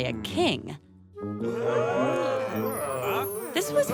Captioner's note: surprised sounds